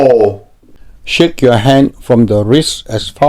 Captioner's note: voiceover